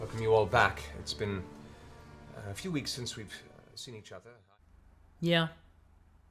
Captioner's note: sound fades out